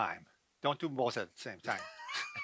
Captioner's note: laughing